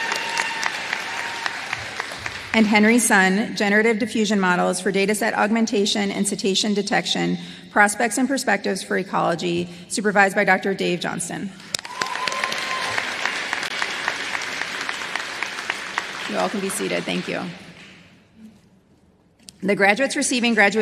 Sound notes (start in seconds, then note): 2.8 applause; 16.8 applause